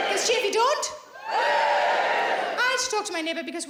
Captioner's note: audience cheering